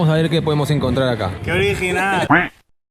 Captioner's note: sarcasm